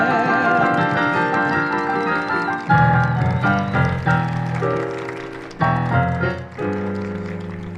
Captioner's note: applause and cheers